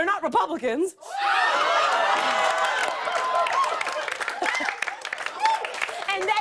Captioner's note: cheers and applause